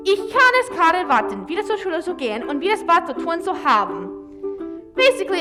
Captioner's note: speaks in German